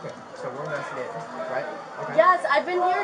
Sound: background chatter

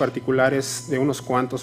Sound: speaking foreign language

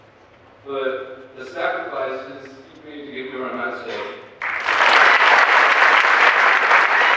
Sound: applause

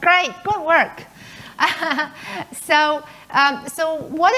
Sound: laughing

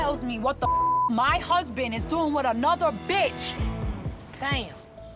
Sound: beep

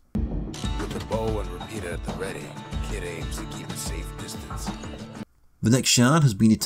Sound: in-game audio

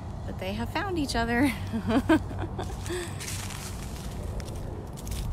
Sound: laughter

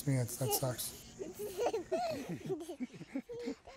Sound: giggling

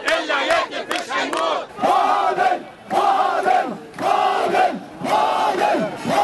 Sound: chants; chants

